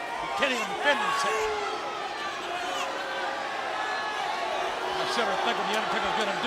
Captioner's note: crowd chattering